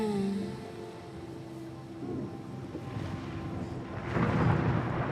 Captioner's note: thunder rumbles